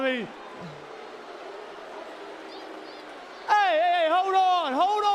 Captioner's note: crowd cheering